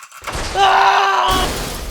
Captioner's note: scream of despair